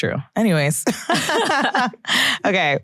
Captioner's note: laughs